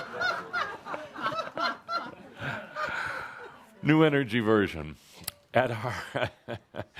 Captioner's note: much laughter